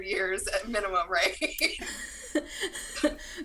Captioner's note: laughs